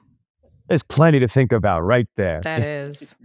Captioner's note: laughs